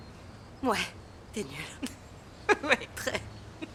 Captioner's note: laughing